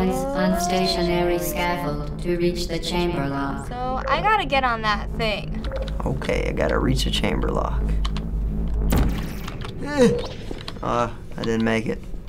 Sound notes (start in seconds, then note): 7.9 gun zaps; 8.0 clicks mouse; 9.7 anxious groan